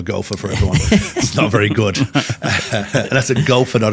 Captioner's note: laughing